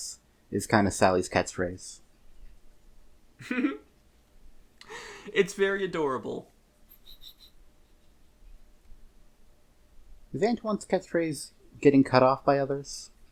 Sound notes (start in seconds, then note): 3.4 giggles